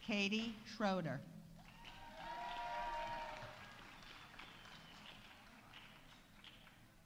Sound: audience applauding; audience cheering

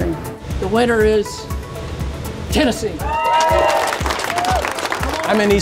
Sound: cheers & applause

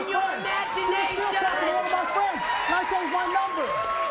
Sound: crowd cheering

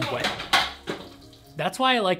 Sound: clanking

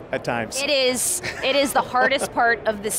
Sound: laughs

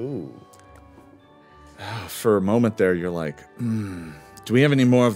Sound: groans

